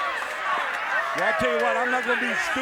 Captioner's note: crowd cheering